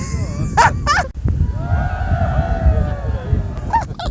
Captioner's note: laughter; whispering; laughter